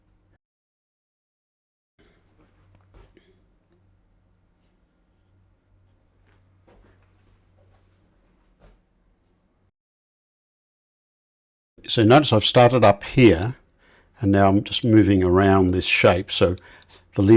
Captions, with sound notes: [silence] So notice I've started up here, and now I'm just moving around this shape, so the